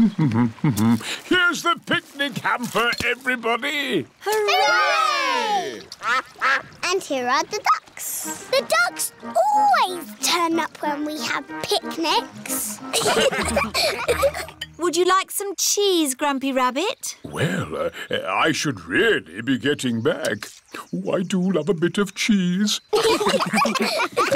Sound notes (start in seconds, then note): 0.3 hums; 6.0 quacking; 12.9 laughter; 22.9 laughter